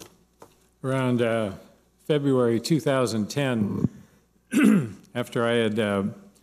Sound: clears throat

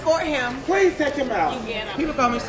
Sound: male Voice

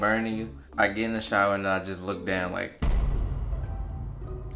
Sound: bang

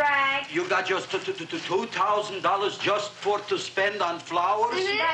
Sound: stammers

